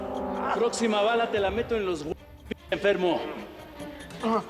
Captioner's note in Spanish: quejidos